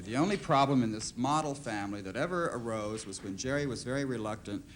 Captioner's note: none